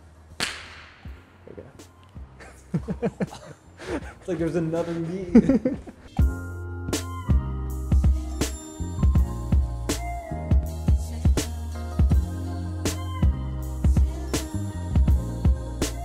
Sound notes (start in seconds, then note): 0.2 claps; 2.4 both laughing; 4.8 laughing; 7.1 upbeat music